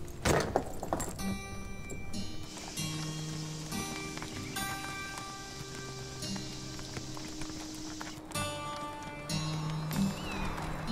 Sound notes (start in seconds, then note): 2.5 birds chirping; 2.5 calm music playing